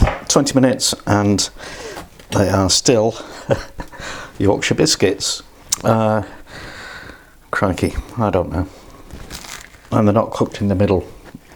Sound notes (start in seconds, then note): 3.2 laughs